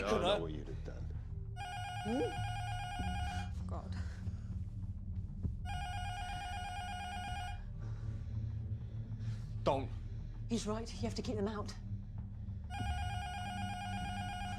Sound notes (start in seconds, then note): 5.7 intercom buzzer rings; 14.4 intercom buzzer rings